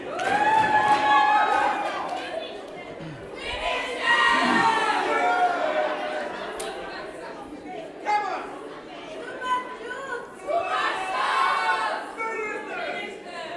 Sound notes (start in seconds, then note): 0.0 audience cheers